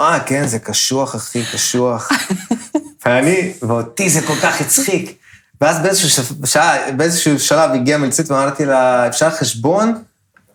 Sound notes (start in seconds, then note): 8.2 in Hebrew